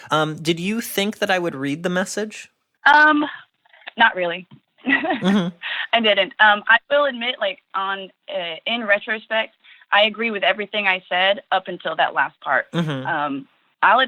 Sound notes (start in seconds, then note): 5.1 laughs